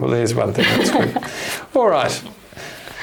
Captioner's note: chuckles